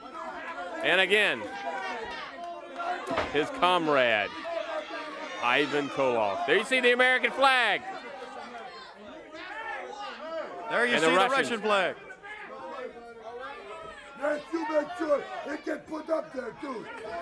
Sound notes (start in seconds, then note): 8.0 crowd chatter